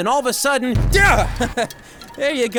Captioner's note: chuckles